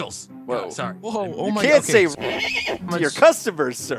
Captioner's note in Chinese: 馬叫聲